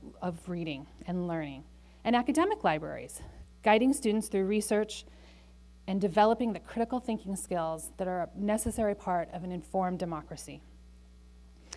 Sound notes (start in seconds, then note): none